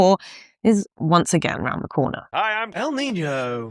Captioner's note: Troy McClure voice